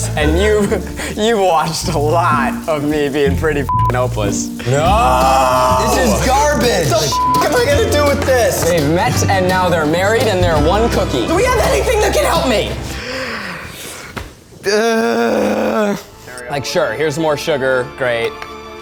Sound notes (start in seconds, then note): 3.7 beep; 7.1 beep; 14.7 groans dramatically